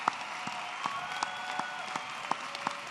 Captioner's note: applause